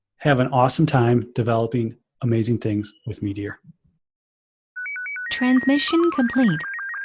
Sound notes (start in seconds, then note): 5.0 voiceover